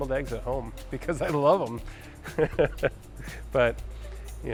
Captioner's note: laughs